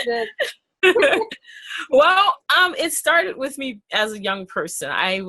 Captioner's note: laughing